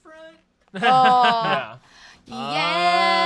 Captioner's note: laughs